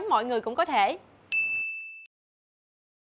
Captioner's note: ding